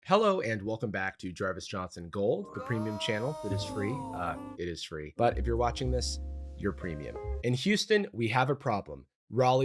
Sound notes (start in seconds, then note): 2.5 disembodied voice